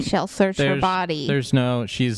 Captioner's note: chuckles